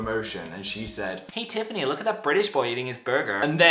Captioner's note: in girly accent